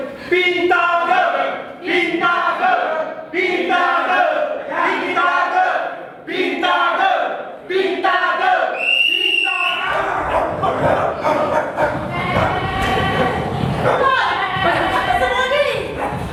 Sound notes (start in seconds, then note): 8.7 Tunggal whistle blows; 9.9 dogs barking